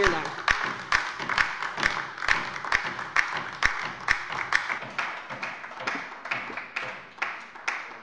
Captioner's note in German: Beifall bei der LINKEN